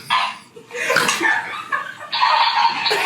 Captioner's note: laughing; snorting; toy snorting